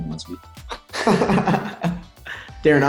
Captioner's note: Jaren laughing